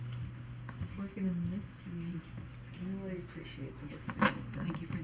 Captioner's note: people chattering